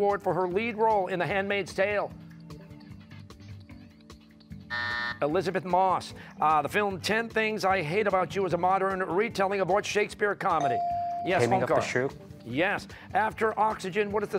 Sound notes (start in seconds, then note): 4.7 buzzer